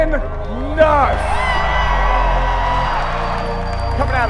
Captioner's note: crowd cheering